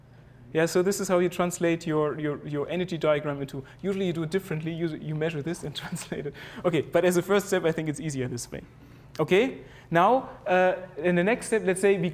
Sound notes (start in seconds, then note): 6.3 laugh